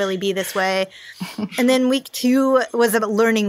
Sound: laughs

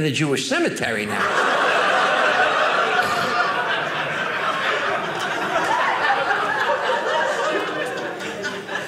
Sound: audience laughing

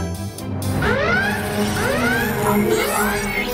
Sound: alarm blaring

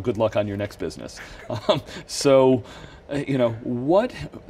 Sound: laughs

